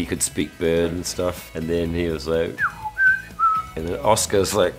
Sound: whistles

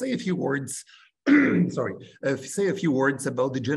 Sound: clears throat

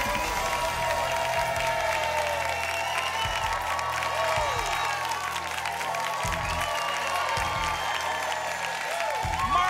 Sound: applause and cheering cont

